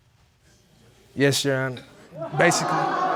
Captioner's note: audience exclaims